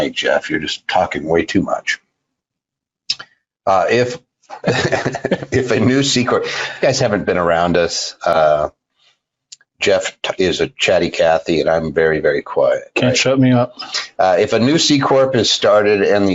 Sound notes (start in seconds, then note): 4.5 laughing